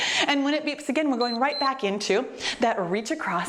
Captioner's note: timer beeps